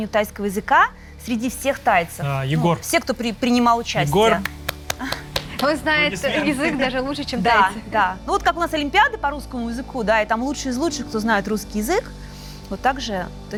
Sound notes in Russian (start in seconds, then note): 3.9 аплодисменты